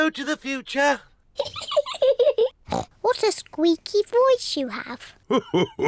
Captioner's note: laughs